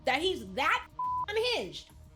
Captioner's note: beep